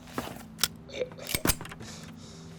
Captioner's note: gun cocks; gunshots